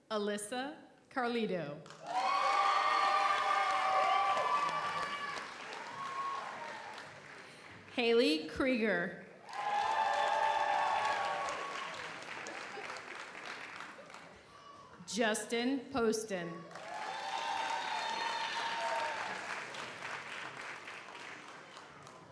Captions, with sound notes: - Alyssa Carluccio. (audience applauds) (audience cheers) Haley Krieger. (audience applauds) (audience cheers) Justin Posten. (audience applauds) (audience cheers)